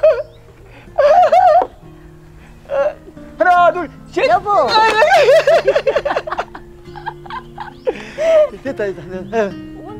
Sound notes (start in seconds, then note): 4.8 both laughing